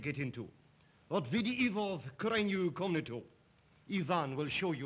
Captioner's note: Zaroff speaks Russian